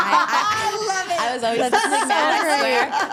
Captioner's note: all laughing